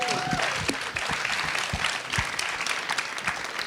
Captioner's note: applause